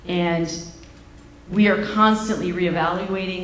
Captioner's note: none